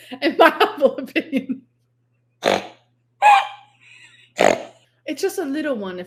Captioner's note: laughs